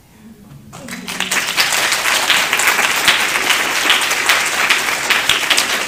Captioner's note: applause